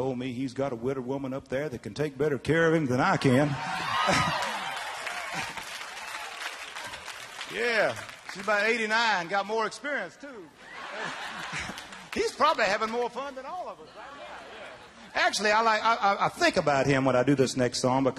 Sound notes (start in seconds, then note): 5.9 audience cheering; 10.6 audience members laughing